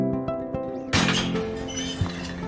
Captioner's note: gate squeaks open